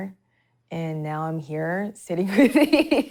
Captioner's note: laughing